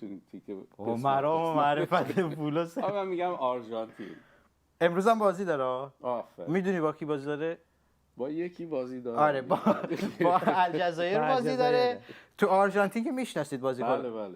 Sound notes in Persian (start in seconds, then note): 4.1 گلویش را صاف می‌کند; 9.4 خنده